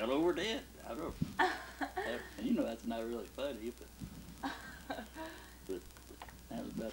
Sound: laughs

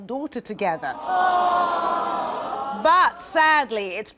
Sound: audience simpering

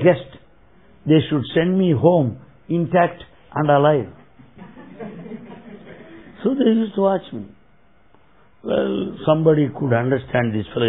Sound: laughter

